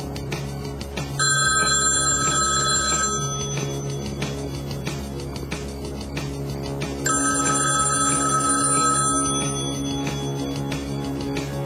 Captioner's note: phone ringing